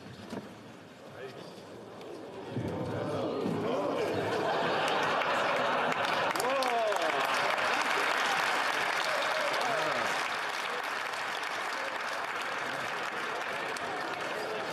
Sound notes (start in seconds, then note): 8.4 laughter; 10.7 cheering and Applause